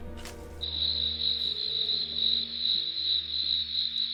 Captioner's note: insects chirping